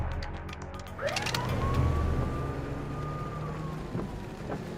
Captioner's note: police siren